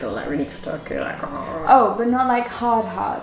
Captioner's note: makes chewing sound